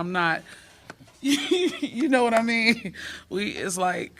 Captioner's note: laughter